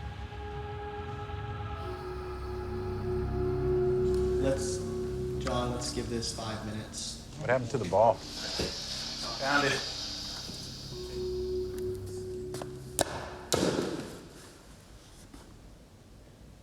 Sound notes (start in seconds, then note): 12.9 thumps